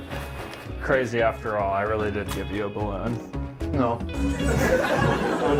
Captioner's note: audience laughter